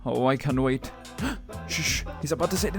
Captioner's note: gasp